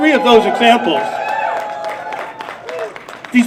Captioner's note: applause